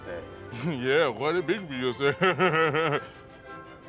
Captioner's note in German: spöttischen Lachen